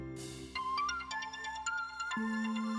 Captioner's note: phone ringing